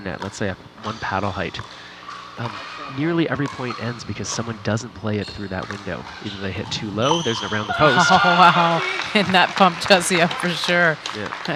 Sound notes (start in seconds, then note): 7.7 laughing